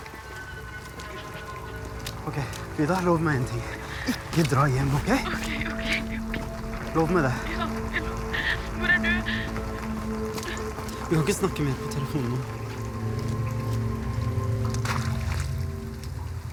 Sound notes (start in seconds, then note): 13.9 splashing